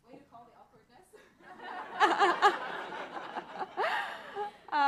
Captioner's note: laughter